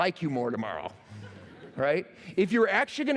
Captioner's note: laughter